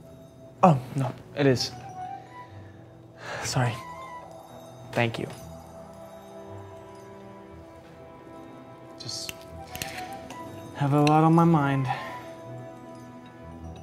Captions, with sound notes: Oh, no, it is. [Sighs] Sorry. Thank you. Just...have a lot on my mind.